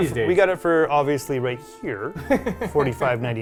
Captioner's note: chuckles